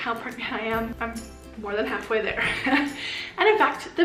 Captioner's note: laughs